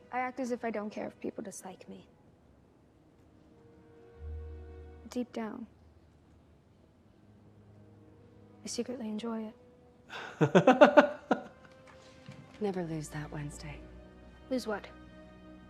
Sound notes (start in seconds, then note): 10.1 chuckles